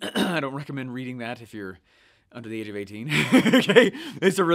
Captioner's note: laughing